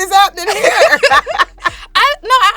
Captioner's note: both laughing